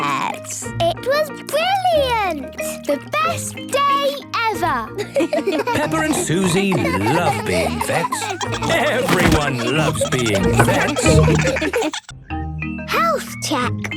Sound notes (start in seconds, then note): 4.5 giggling